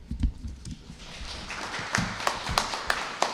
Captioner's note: applause